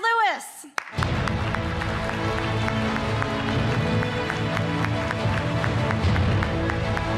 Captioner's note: audience clapping; dramatic music